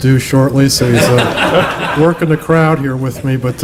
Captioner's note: laughter